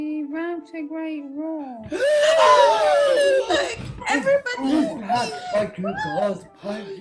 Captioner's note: cheering and shouts of joy